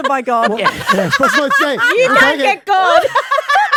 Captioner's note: laughing